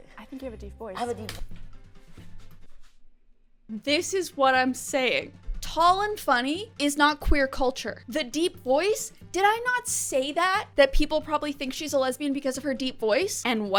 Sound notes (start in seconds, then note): none